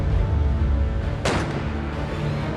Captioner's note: gun shots